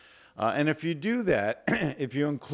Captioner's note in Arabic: تطهير الحلق